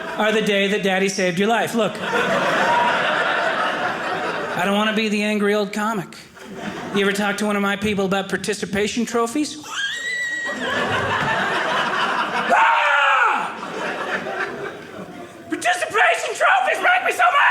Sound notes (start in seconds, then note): 12.4 screaming